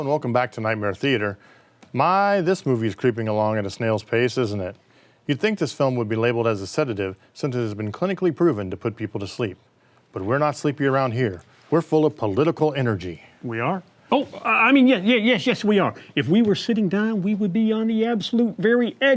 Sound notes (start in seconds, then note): none